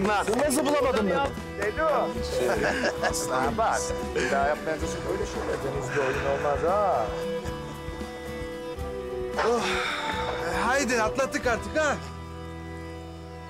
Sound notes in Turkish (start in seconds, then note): 2.3 Gülme sesleri